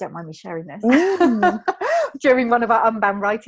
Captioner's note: laughing